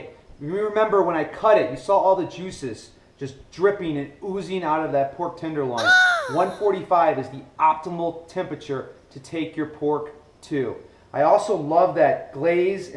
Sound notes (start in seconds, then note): 5.7 high-pitched voice